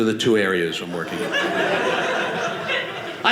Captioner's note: audience laughing